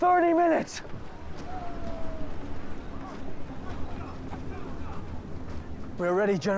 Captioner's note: panting